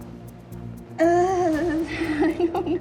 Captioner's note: laughing